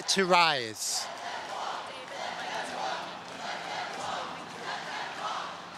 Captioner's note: audience chanting